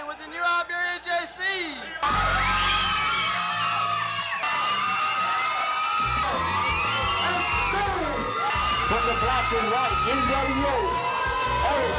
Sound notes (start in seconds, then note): 2.3 party cheers; 2.3 upbeat rock music